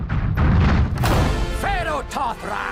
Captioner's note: loud banging